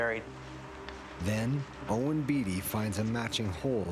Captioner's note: voiceover